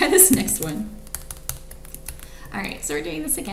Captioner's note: keyboard clicks